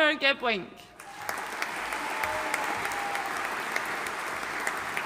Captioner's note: audience applauding